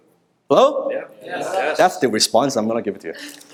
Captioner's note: crowd